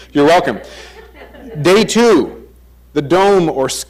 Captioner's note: crowd chuckles